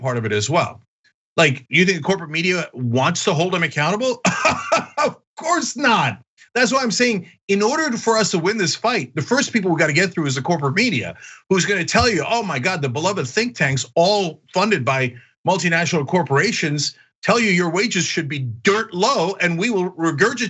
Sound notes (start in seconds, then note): 4.2 laugh